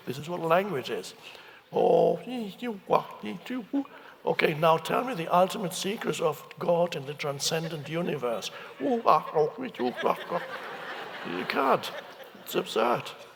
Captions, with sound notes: This is what language is. (Eckhart mumbling) Okay, now tell me the ultimate secrets of God and the transcendent universe. (Eckhart mumbling) (audience laughing) You can't, it's absurd.